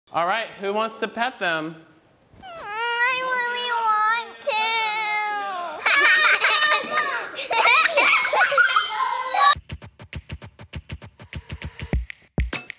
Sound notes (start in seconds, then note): 5.8 laughing; 10.1 upbeat music